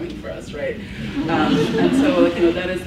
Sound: laughs

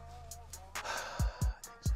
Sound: sigh

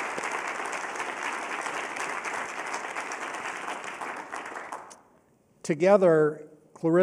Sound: applause

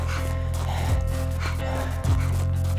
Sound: heavy breathing

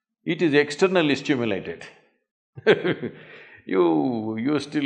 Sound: laughs

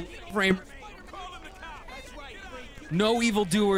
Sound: civilians shouting

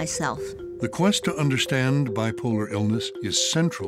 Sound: voiceover

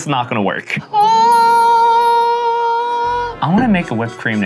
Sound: imitating magical bells ringing

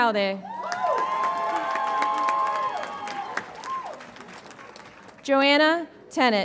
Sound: audience applauds and cheers

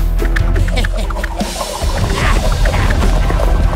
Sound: evil laughs

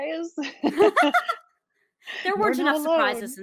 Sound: laughs

